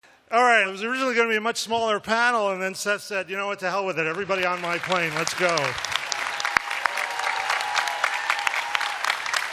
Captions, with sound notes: - All right. It was originally going to be a much smaller panel, and then Seth said, you know what, the hell with it. Everybody on my plane, let's go. [applause]